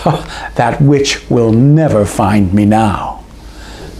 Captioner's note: laugh